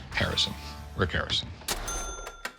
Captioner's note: imitating James Bond